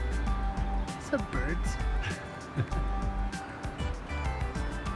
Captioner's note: laughs